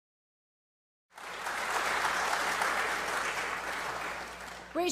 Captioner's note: applause